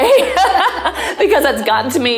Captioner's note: laughing